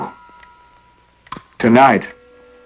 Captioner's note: clock ticking